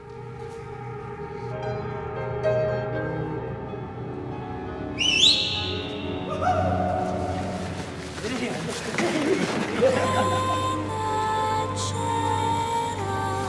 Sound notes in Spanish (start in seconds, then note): 4.9 Silbidos y gritos